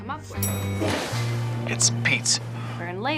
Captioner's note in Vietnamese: chuông thang máy